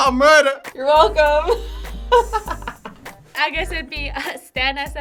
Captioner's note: laughs